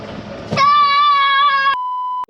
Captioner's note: yelling; beeping sound